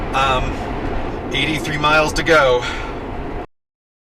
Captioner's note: sigh